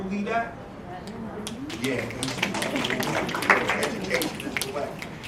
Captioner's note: applause